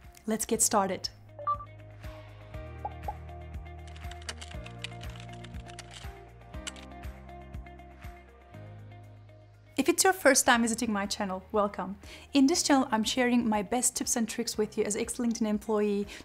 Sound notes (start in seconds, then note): 2.7 upbeat music; 3.9 keyboard clicking